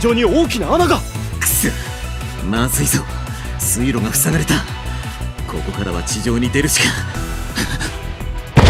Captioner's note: gasp